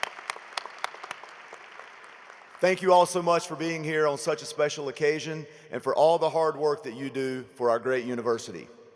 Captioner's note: applause